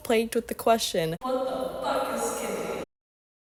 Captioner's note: echo